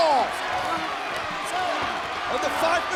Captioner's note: audience chattering